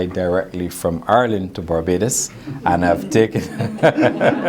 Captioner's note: laughs